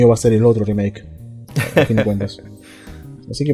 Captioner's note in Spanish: risas